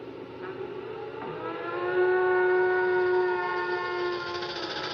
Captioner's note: moaning Through Horn; rattling